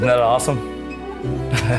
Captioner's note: laughter